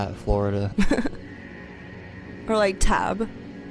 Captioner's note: person chuckles